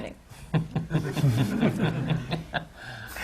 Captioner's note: laughter